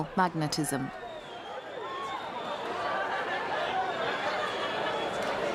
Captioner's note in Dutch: publiek mompelt